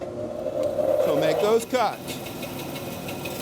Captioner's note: band saw whirs